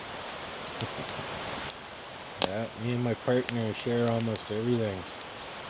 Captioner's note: laughter